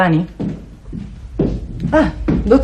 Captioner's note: sound of steps